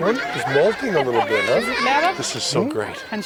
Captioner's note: non-english speech